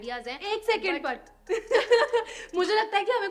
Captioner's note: laughter